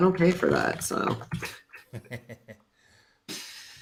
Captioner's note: laughs